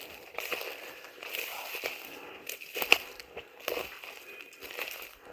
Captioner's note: leaves crunching continues